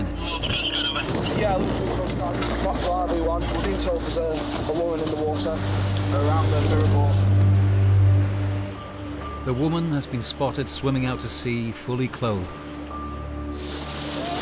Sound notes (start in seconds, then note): 7.3 intense music; 8.4 waves crashing; 12.4 intense music